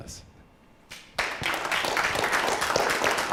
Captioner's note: clapping